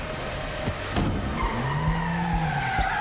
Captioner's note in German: reifen quietschen